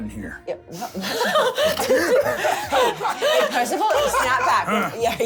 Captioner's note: laughing